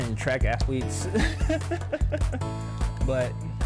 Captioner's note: laughs